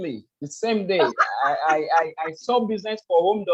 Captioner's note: laughs